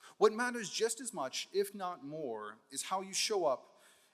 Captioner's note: none